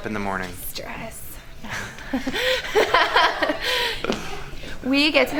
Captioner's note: laughing